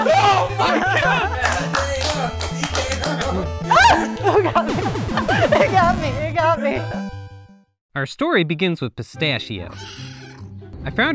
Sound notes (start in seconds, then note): 0.0 laughter; 0.0 screams; 0.0 clapping and cheering; 3.6 screams; 4.6 video game punching sounds; 8.2 cheerful music begins; 9.7 kitten meow